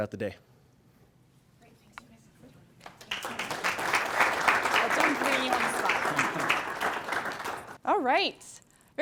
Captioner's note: applause